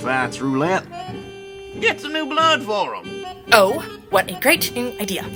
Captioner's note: sarcastically